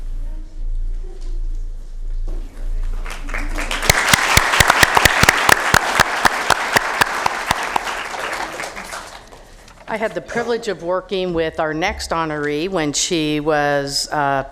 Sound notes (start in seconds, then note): 5.9 applause